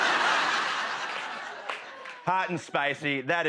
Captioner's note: laughter